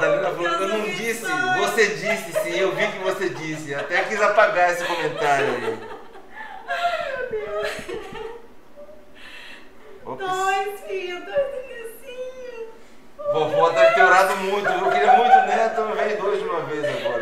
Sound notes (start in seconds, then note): 6.0 laughter; 16.7 laughs